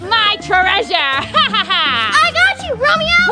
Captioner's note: laughs